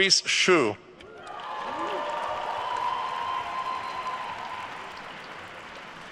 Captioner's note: attendees cheering and applauding